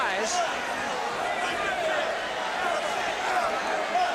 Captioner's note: crowd chatter